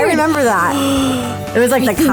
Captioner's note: gasping